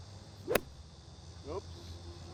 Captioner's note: club swings